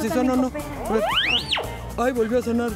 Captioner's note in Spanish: Pitido